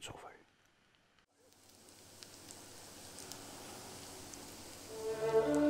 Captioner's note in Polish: skwierczące masło